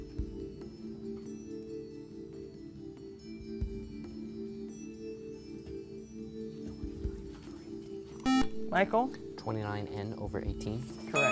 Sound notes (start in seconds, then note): 8.2 buzzer